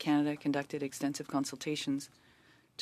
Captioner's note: speaking French